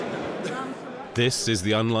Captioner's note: chuckling